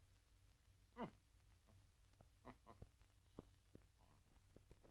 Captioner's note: giggling